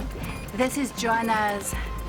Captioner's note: explosive beeping